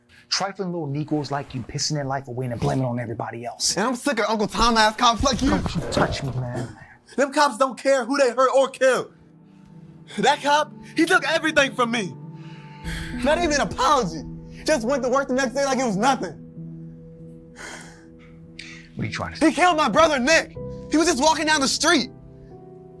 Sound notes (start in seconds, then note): 17.5 Deshaun exhaling